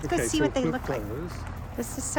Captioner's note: gravel crunching